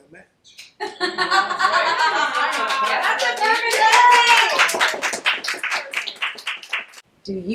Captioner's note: background cheering